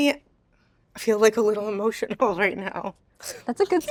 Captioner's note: chuckles